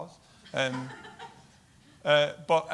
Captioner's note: woman laughs